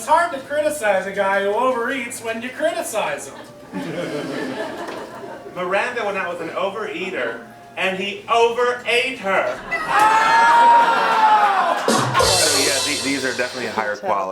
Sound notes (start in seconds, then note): 3.3 light laughter; 9.0 laughter, rim shot